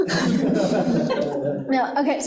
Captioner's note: group laughing